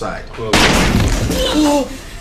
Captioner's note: bang